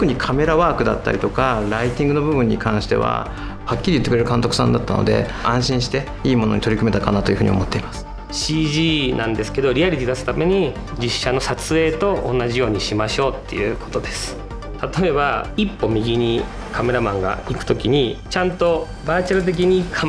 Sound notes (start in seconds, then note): 0.3 speaks Japanese; 8.8 speaks Japanese